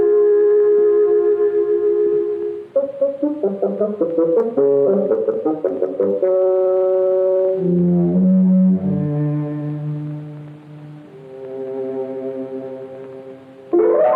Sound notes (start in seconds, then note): none